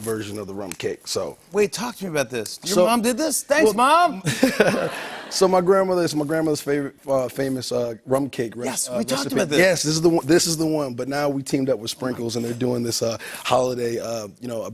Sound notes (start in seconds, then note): 4.2 laughter